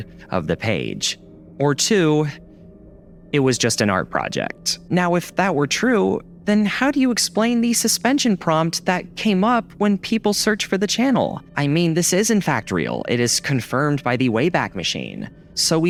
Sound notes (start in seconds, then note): none